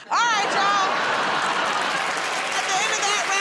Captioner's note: cheers and applause